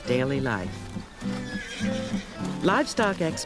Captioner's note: horse neighs